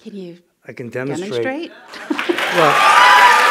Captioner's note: cheers and applause